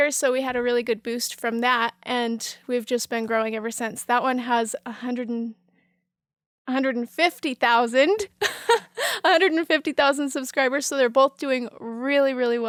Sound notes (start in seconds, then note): 8.3 laughs